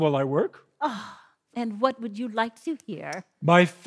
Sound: sighs

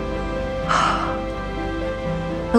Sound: sigh

